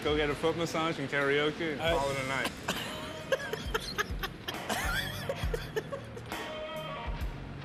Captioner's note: laughing